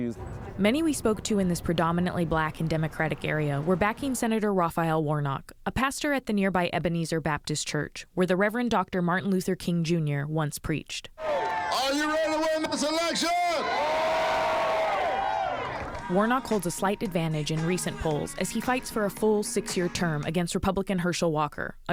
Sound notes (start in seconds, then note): 13.4 cheering and applause